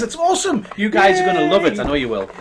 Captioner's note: cheering